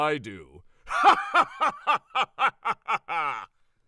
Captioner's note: triumphant laugh